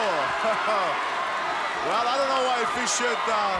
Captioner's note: chuckles